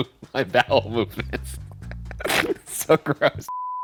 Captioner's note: laughing